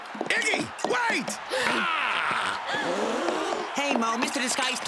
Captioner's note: gasping